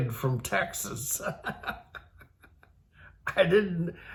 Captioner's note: laughs